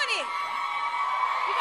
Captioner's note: crowd cheers